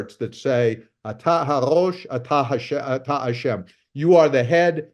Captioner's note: speaking in foreign language